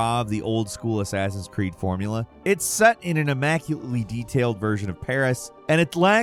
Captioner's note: none